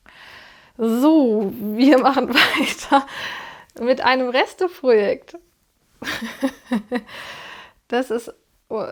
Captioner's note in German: gelächter